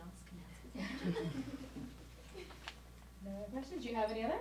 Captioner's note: audience giggles